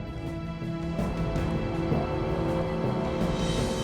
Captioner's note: none